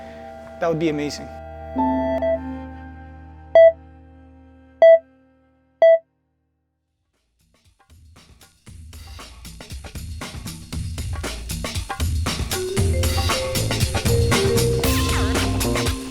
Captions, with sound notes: That would be amazing. (cardiograph flatline returns to beeps)